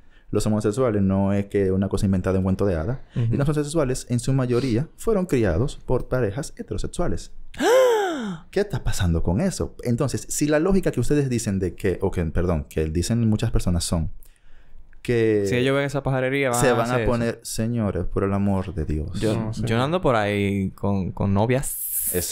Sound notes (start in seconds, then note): 7.4 surprise sound